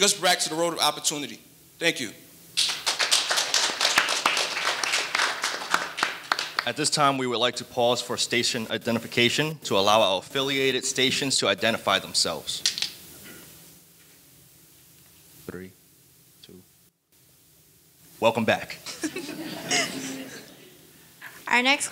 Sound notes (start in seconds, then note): 2.6 audience applauding; 18.9 audience laughing